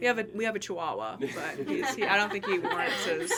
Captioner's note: people laughing